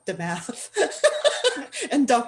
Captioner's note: laughter